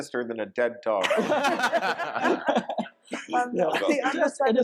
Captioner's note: panelists laughing